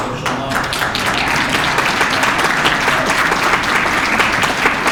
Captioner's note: applause